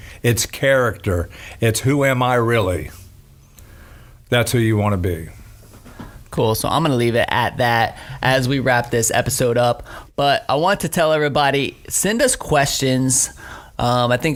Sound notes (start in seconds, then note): none